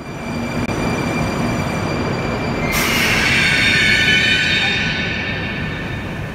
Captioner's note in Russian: прибытие поезда на станцию